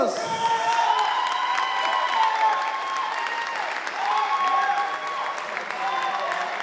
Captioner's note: audience applauding and cheering